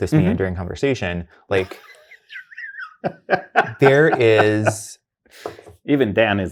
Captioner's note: guy laughing